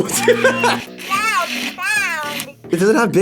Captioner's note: Furby babbles; laughs; buzzer